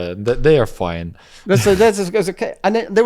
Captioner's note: laughs